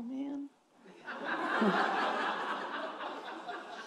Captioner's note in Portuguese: risos da plateia